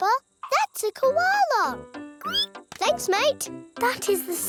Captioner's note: squeals